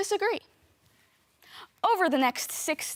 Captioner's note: soft breathing